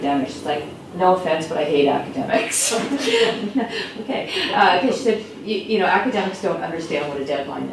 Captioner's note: laughs